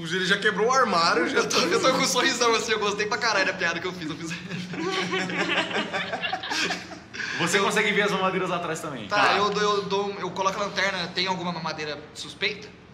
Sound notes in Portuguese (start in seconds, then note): 4.0 Risadas; 4.2 Hehehe